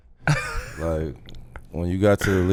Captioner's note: laughing